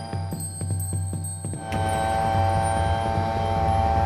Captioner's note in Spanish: zumbido